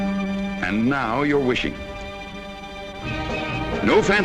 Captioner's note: voiceover